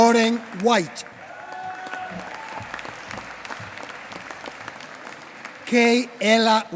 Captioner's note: applause